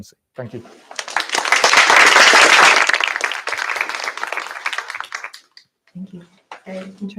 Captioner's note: applause